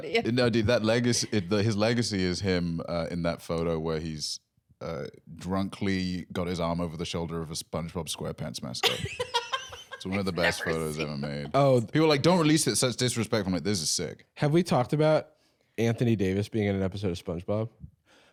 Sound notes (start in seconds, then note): 8.8 laughing